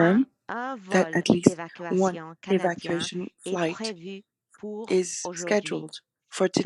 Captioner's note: speaking French